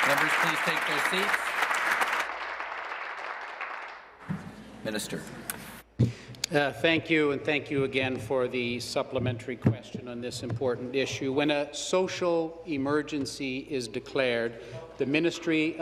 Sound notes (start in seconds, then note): 0.0 applause